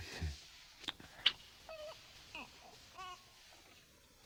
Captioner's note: cooing